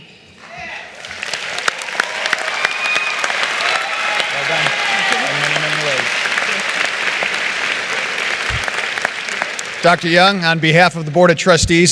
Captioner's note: applause